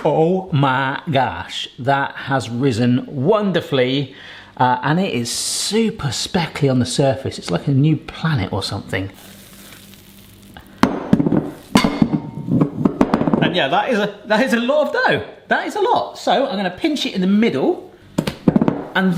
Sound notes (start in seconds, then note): 11.0 bowl rattling